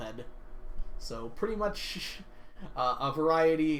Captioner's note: laughs